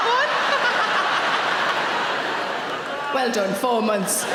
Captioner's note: audience laughing